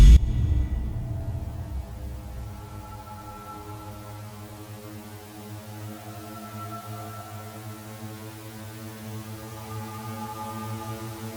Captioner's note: spaceship flying